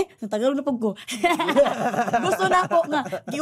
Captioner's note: both laugh